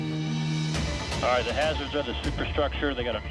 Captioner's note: uplifting music; voiceover